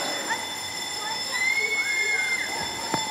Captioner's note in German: Kreischen, Lachen